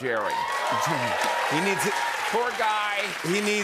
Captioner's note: cheers and applause